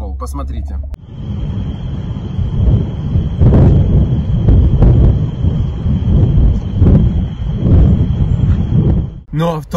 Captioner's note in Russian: звуки взрывов